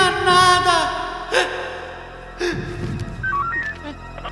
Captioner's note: squeals